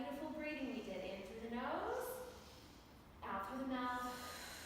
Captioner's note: exhaling; inhaling